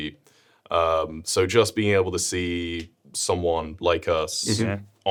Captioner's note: none